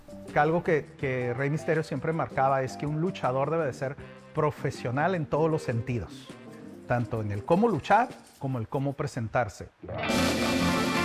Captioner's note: speaking Spanish